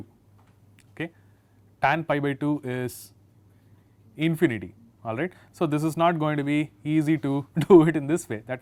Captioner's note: laughter